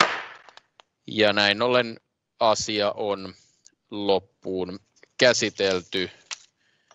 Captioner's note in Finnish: nuijan kopautus